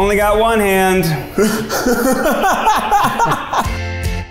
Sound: laughs

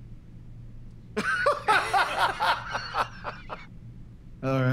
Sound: laughter

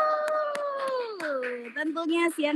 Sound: applause

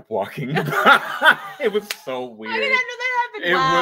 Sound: both laugh

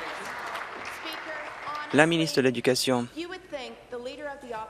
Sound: applause

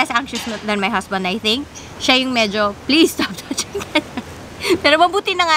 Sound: laughs

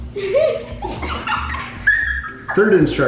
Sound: laughing

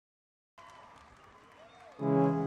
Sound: audience cheers; soft music

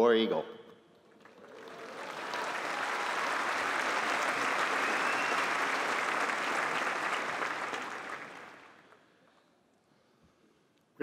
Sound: applause

